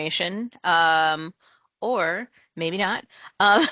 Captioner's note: laughter